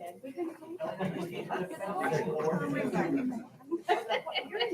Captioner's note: people chattering